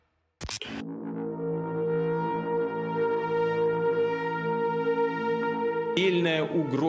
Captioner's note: dark brooding music; static hisses; Vladimir speaks in Russian